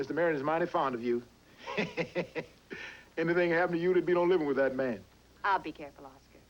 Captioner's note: chuckling